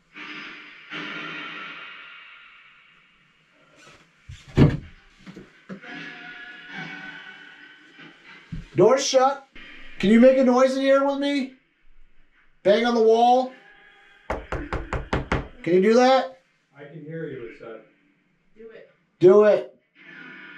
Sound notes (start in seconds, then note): 0.1 radio noise echoing; 14.2 knocking; 20.3 radio noise echoing